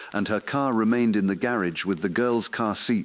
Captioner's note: exhale